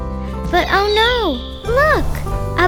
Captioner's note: bird screeching